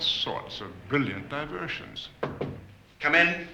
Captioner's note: knock on door